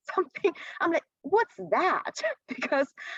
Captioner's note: laughter